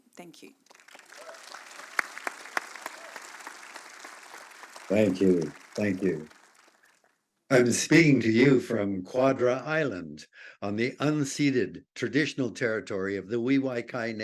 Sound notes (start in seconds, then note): 0.6 applause